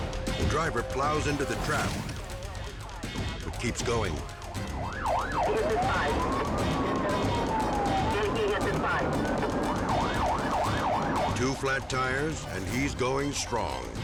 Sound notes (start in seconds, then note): 0.0 tense music; 10.0 sirens wailing; 10.0 tense music